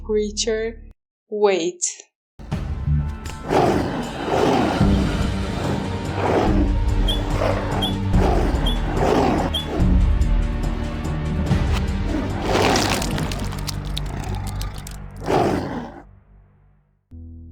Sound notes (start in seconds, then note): 2.3 slightly tense music; 3.2 wolf growls